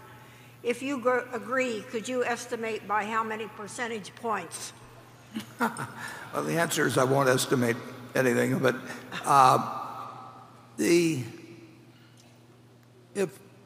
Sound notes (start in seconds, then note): 5.3 laughs